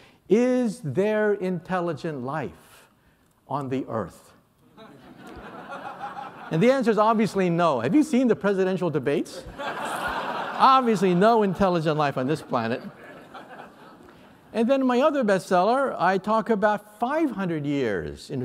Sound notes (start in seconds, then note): 9.4 laughter